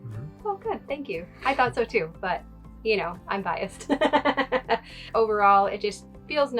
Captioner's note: laughs